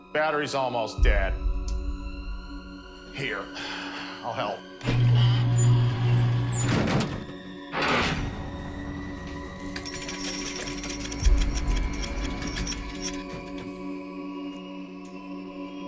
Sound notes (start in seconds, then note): 7.7 power sounds off; 9.2 door clatters open